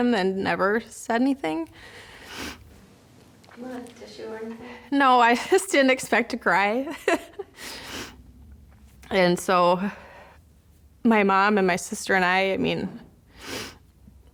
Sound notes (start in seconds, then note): 2.3 sniffs; 7.2 laughs